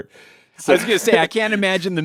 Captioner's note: laughs